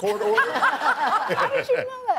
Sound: laughter

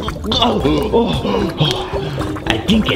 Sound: pants

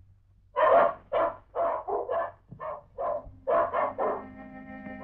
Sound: dog barks

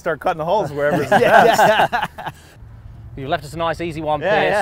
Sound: laughing

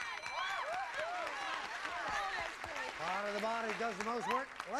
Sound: audience applauding

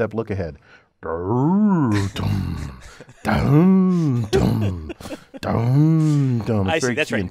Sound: laugh

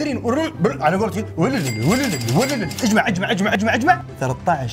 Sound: kashing sound

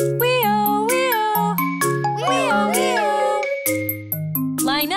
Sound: children giggling

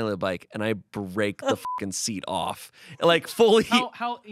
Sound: beep

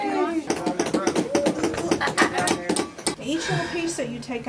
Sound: tapping sound

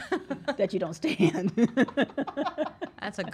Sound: laughs

